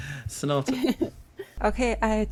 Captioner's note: laughing